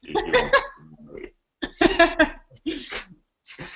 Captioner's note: laughing